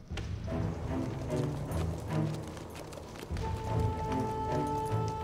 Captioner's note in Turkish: At nalı sesleri